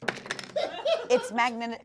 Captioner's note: crew laughs